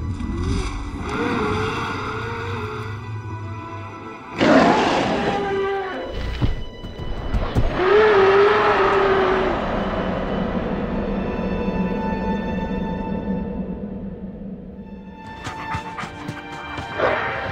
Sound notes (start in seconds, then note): 4.3 loud growl